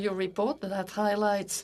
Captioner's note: speaking French